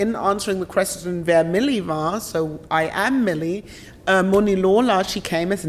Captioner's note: speaks German